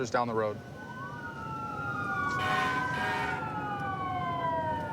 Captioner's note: emt sirens blaring